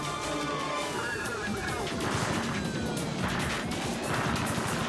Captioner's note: gunfire banging